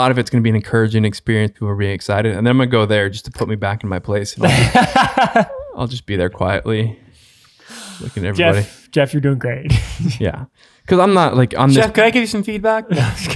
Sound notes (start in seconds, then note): 4.4 laughs; 9.9 laughs; 12.9 laughs